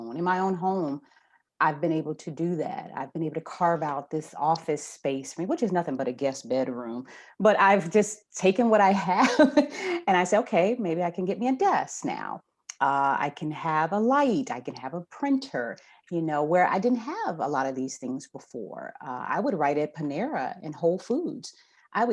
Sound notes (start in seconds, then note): 9.5 laughs